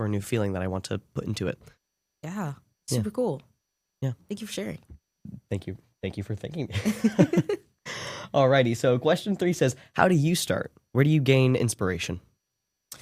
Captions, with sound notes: a new feeling that I want to put into it. Yeah, super cool. Yeah. Thank you for sharing. Thank you, thank you for thanking me. [LAUGH] Alrighty, so question three says, how do you start? Where do you gain inspiration?